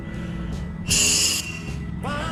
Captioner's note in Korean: 후우